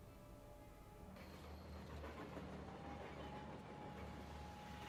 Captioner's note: train rumbling